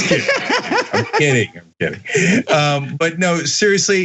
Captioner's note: laugh